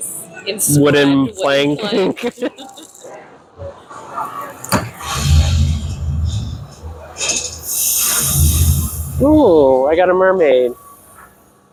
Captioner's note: porthole opening